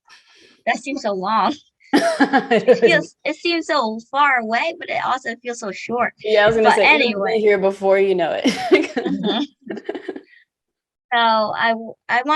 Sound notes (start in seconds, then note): 1.9 laughs; 8.4 laughs